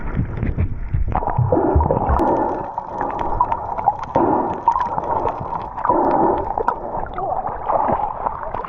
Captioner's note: sound of breathing underwater